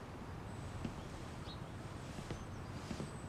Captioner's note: birds chirping